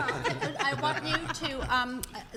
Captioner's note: laughs